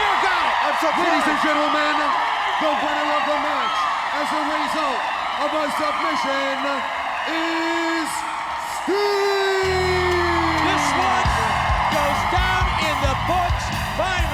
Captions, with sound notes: Stinger got it! Lades and gentlemen, the winner of the match as a result of a submission is Sting! (crowd cheering) This one goes down in the books.